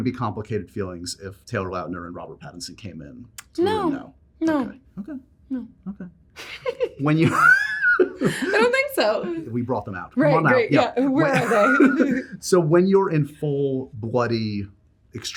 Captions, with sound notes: There wouldn't be complicated feelings if Taylor Lautner and Robert Pattinson came in now? No. No. OK. OK. - No. - OK. When you-- [LAUGHS] I don't think so. If we brought them out-- come on out. Yeah. Where are they? So when you're in full bloody extreme Mary--